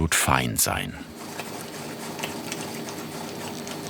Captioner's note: soft whir of the machine